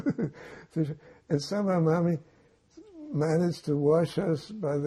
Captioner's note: laughing